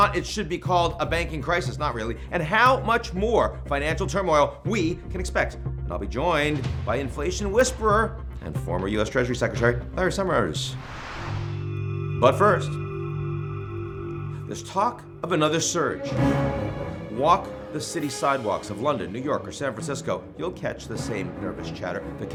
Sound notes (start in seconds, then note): 10.6 air whooshes; 11.2 ominous music; 16.1 intense music